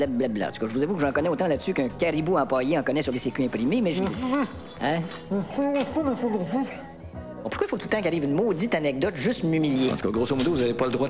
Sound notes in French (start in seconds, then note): 5.1 Voix étouffée